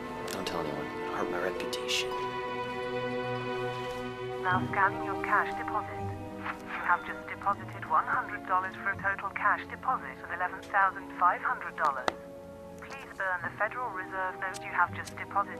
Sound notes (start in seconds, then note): 4.4 automated Voice; 6.6 cha-ching